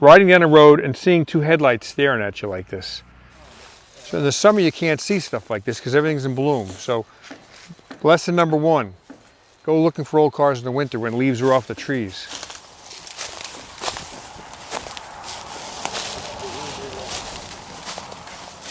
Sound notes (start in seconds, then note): 13.4 crunching leaves